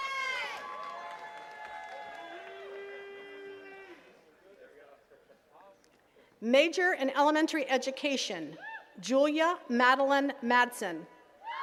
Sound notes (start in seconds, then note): 0.0 attendees cheering and clapping; 3.6 attendees chattering; 8.9 attendee cheers